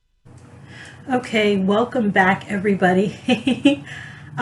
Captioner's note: laughs